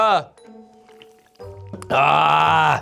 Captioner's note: soft slurp